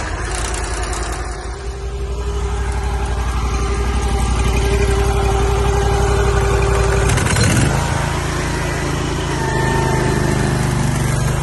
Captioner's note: motor going